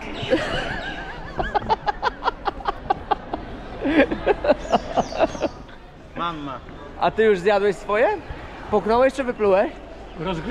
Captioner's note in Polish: śmiech